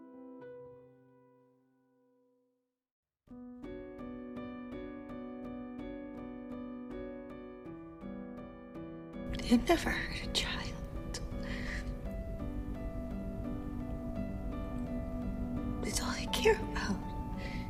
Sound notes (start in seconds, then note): 9.5 voiceover